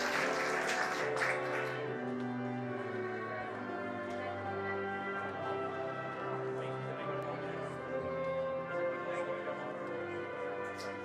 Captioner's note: applause